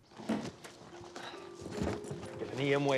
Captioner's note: moan